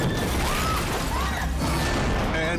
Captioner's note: objects clunks